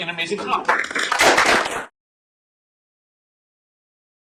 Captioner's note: applause